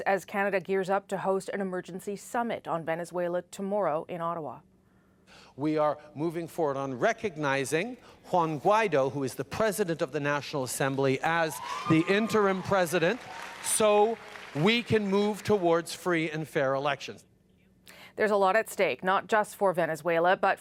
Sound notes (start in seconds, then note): 16.8 applause